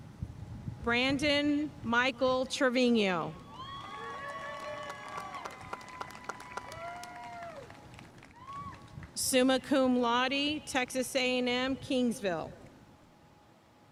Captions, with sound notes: Brandon Michael Trevino. (audience cheering and applauding) Summa Cum Laude, Texas A&M kingsville.